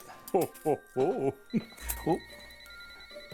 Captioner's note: phone rings